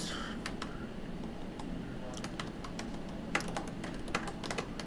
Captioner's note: keyboard clicking